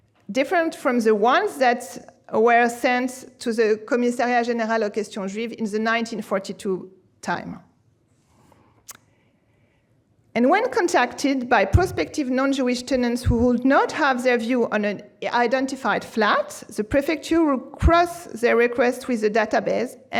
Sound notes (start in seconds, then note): 4.6 speaking french